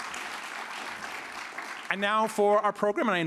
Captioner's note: applause